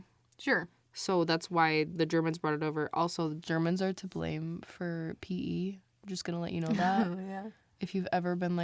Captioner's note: laughs